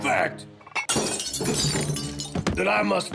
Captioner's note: glass bottles smash